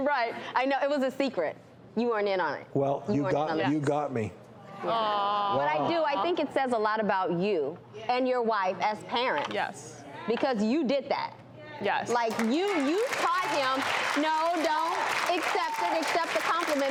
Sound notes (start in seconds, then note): 5.2 audience awwing; 12.2 audience applause